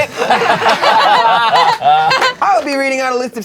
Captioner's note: crowd laughing